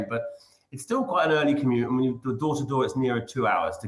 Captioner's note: none